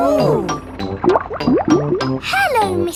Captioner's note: bubbling